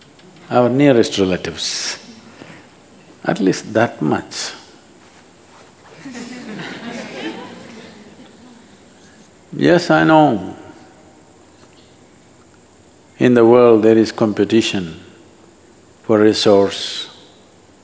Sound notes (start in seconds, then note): 5.9 laughter